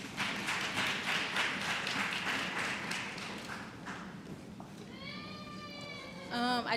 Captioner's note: applause